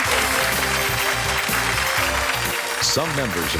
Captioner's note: audience applause; jazzy music